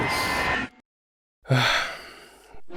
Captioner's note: sighs